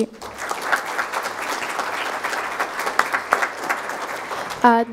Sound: crowd applauding

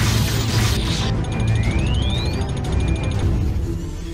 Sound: Thermal Detonator starts beeping

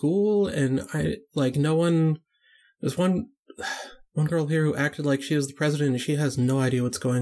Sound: sigh

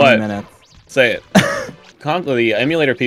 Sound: laughter

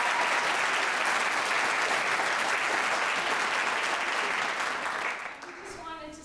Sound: audience applauds

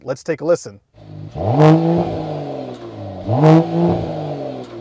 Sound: engine revving

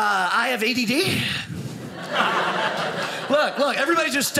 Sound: audience laughing

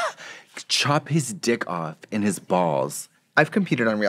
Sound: laughing

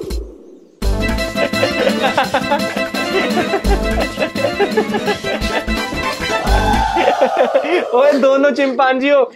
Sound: laughing

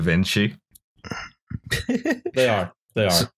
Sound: laughter

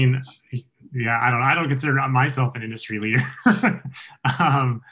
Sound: chuckles

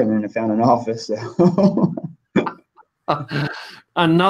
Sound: laughs

